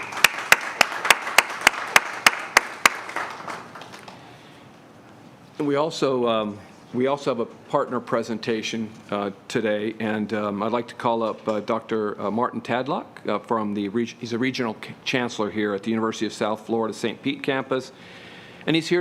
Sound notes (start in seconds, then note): 3.2 applause